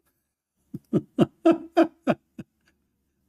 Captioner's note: Ketawa